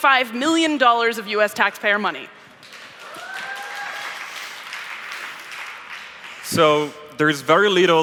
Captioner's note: applause